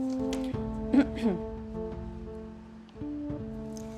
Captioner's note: clears throat